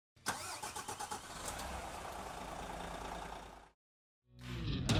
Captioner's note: vehicle engine roaring; upbeat instrumental music